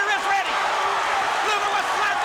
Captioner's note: crowd cheering